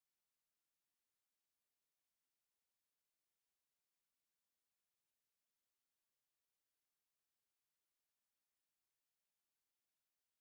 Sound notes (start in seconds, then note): none